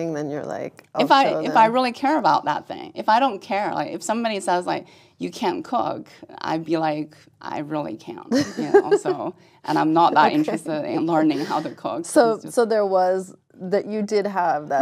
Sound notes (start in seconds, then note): 9.7 laugh